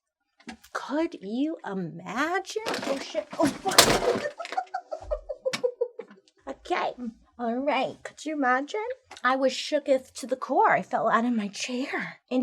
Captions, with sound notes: Could you imagine? Oh shit. Oh fuck. (crashing) (giggling) Okay. All right. Could you imagine? I was shooketh to the core. I fell out of my chair.